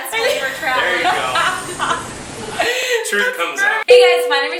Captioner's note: laughs